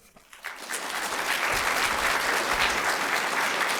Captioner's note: applause